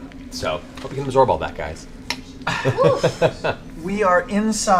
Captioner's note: laughs